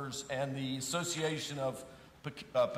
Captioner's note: none